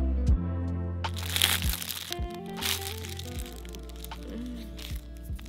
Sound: plastic crinkling

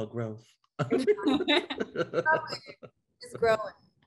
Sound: group laughing

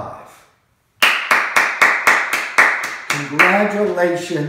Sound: Mo applauding

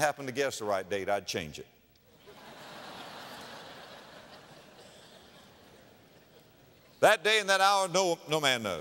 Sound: audience laughter

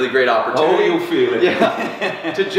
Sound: laughs

